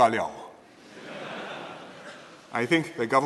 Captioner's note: laughter